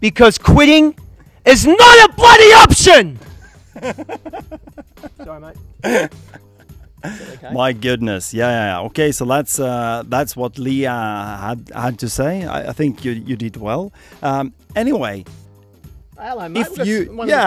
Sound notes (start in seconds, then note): 3.3 more laughs